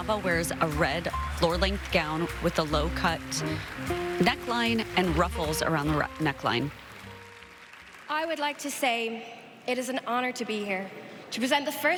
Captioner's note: applause